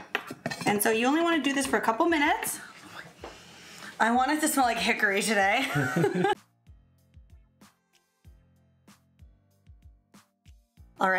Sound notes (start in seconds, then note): 5.6 laugh together; 7.6 upbeat music